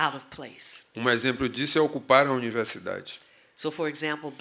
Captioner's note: speaking portuguese